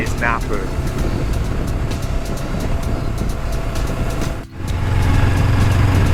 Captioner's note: sound of Bike Engine